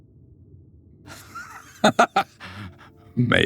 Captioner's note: laughs